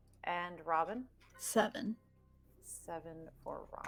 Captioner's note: none